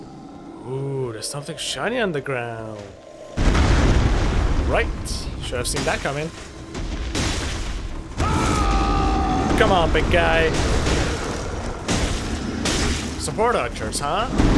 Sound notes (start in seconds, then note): 0.0 faint roar in the distance; 8.2 roar of refocusing